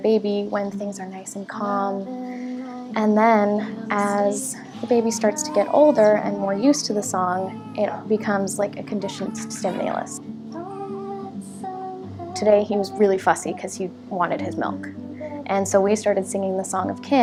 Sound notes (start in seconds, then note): 10.6 baby crying